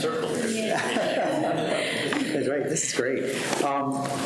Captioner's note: people laughing